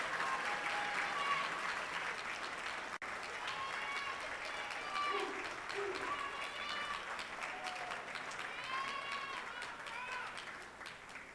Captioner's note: applause